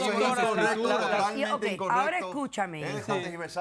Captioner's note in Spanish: Hablan al unísono